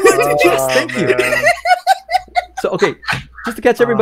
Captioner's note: laughs